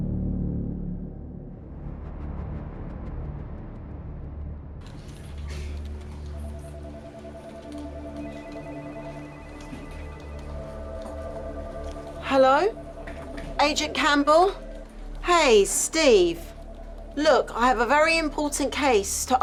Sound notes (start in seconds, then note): 0.1 slow dramatic music continues; 6.9 phones ringing